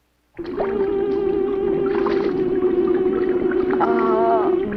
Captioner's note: water splashing; tense music; Liz groaning